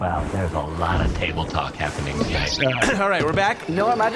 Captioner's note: ahem